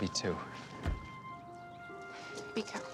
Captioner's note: door open close